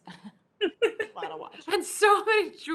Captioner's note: chuckles